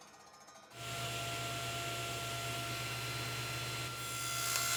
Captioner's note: saw whirring